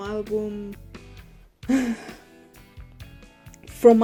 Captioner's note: deep sigh